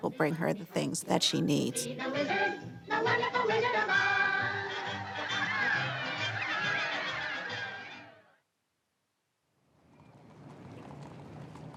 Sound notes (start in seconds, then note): 4.8 crowd cheering